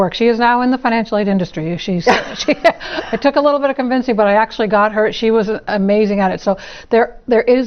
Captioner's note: laugh